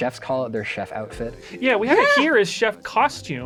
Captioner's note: laughs